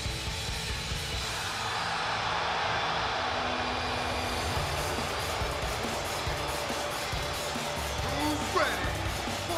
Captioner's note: crowd cheering